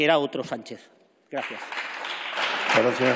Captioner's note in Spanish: Aplausos